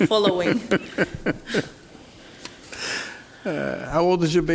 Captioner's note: Caprio laughs